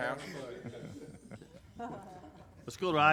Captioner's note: laughs